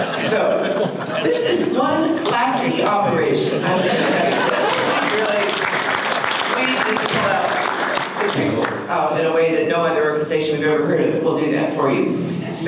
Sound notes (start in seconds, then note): 3.6 audience laughter